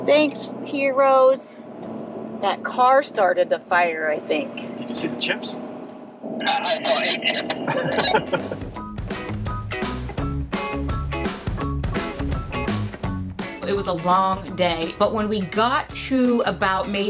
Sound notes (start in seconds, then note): 7.8 upbeat music; 8.1 chuckling